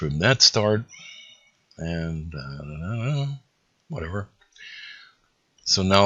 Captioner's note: mumbling to myself